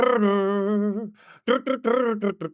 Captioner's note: imitates guitar